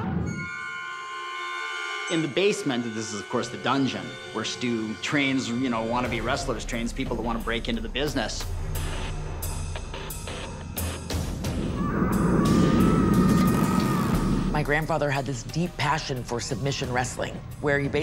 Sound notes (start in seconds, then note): 11.7 muted cry